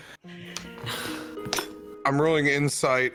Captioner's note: sad sighs